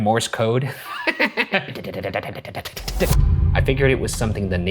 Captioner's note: laughing